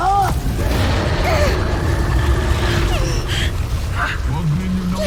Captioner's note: reverberating chimes, spellbinding whoosh; growls